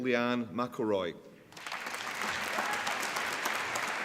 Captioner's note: applause